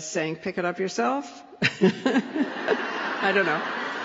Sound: laughter

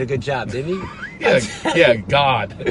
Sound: laughing

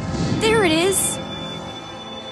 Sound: ghost whirring

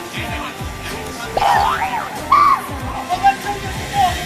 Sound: started shouting

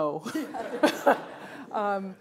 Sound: laughter

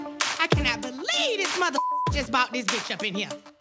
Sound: beep

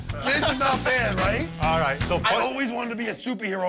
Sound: laughing

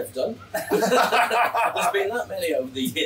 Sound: both laughing

